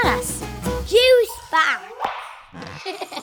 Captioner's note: laughs